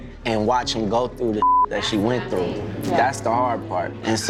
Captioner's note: beep